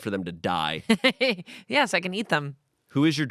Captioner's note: Amanda laughs